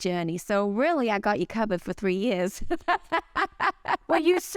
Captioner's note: laughs